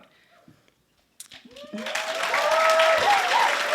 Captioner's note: applause